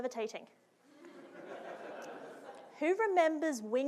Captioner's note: audience laughing